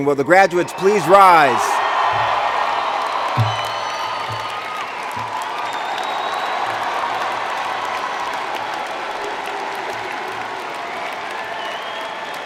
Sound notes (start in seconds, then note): 2.8 cheers and Applause